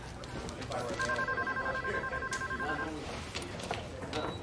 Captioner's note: Lobby chatter; Phone ringing; Lobby chatter